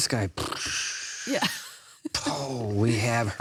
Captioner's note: mimics explosion